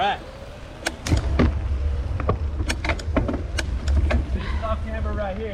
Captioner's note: camera clicks